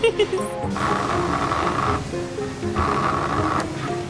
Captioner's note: pager vibrating